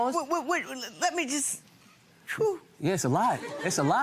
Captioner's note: exhales